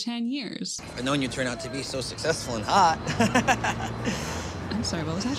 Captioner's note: laugh